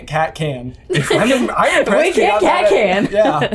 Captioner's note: laughing